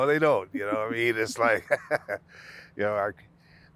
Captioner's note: laughing